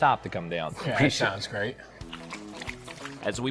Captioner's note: dog lapping